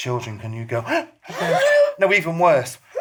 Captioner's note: gasps